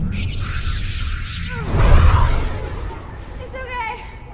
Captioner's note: grunts